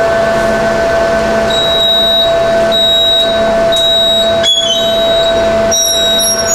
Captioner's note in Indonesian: suara mesin pres; suara beep; suara beep